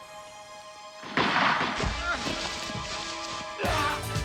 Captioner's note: gun firing; man groaning; man yelling; dramatic music